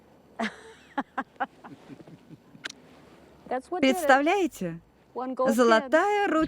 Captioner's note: laughs